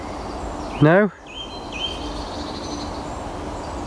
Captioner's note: birds chirping